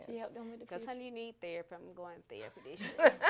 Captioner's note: laughter